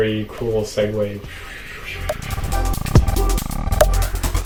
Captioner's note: making epic gamer sound effects